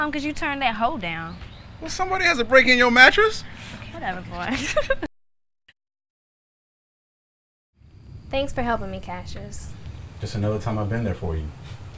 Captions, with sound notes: you turned that ho down. - Well somebody has to break in your mattress. - Whatever, boy. (woman laughing) Thanks for helping me, Cassius. - Just another time I've been there for you.